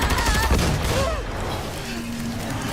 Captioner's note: boom